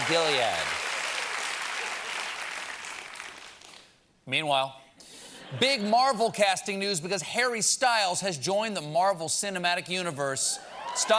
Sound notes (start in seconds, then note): 4.2 applause